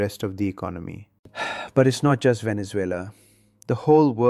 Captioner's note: sighs